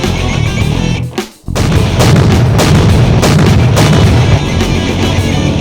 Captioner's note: steps thudding